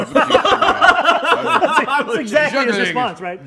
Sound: laughter

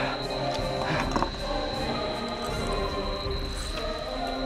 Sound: exhales loudly

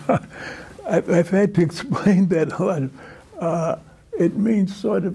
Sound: laughter

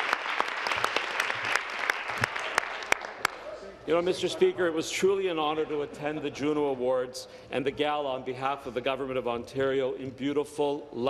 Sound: some Applause

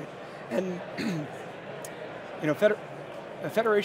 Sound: clears throat

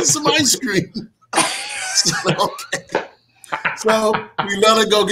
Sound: all laughing

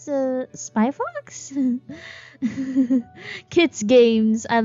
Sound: giggles

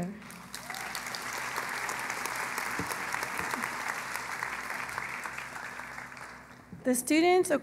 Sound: applause

